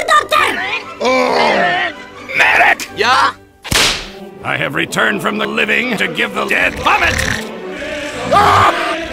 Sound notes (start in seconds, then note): 3.6 whip snaps; 7.0 snores